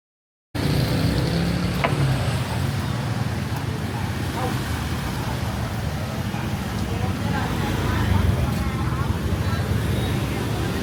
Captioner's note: sounds of a bustling Vietnamese market